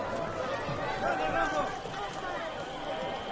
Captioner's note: yelling in foreign language